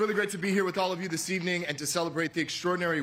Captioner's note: cheers and applause